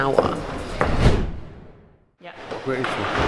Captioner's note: air whooshing